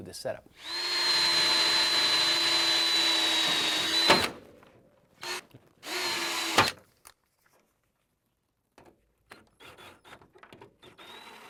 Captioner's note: drilling